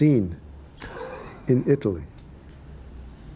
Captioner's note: laughs